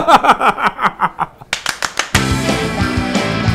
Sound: laughs

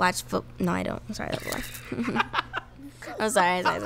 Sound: laughs

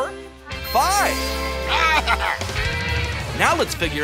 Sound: laughing

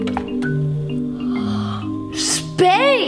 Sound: gasps

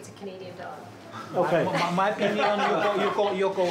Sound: laughs

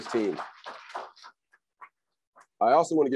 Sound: crowd applauds

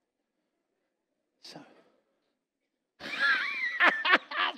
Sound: laughs

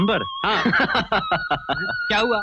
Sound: laughing

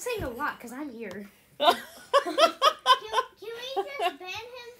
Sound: laughter

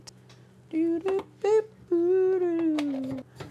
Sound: hums

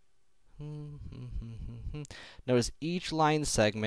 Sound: humming

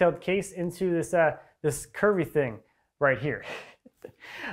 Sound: chuckles

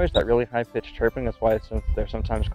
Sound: chirp

